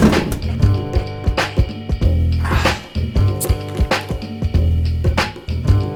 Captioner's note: soda thuds